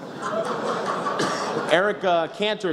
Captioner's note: laughter